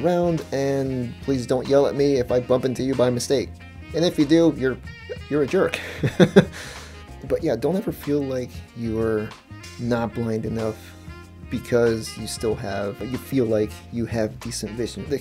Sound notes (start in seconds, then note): 5.8 laughs